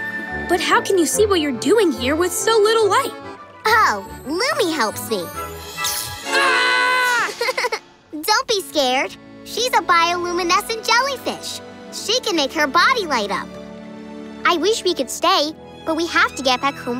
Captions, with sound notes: But how can you see what you're doing here with so little light? Oh, Loomi helps me. [screaming] [laughing] Don't be scared. She's a bioluminescent jellyfish. She can make her body light up. I wish we could stay, but we have to get back home